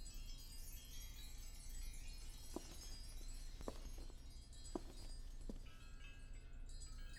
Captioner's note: wind Chimes